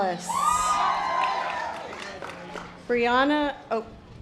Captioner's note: audience applause